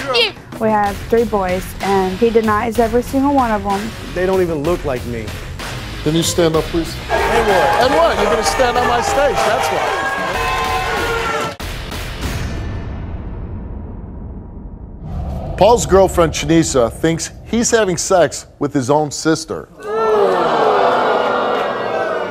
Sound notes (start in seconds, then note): 9.6 audience jeering; 11.5 dramatic music; 19.7 audience groaning